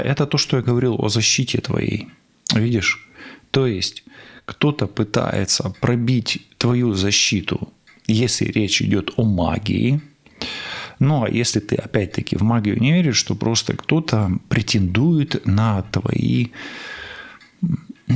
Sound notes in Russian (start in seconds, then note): 17.6 откашливается